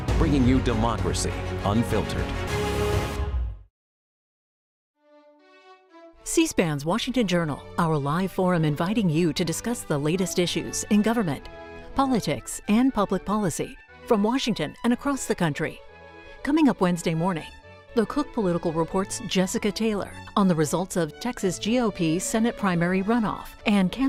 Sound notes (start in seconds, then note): none